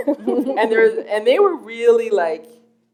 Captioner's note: laughter